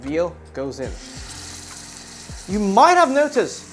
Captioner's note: sizzling sound